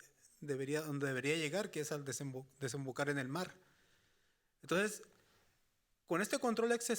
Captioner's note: speaking Spanish continues